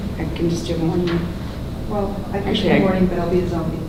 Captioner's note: people chattering softly